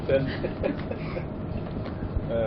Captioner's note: laughing